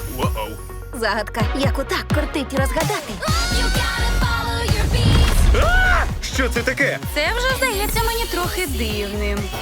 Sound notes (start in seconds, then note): 3.0 screams